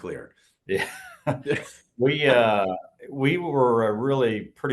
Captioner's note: laugh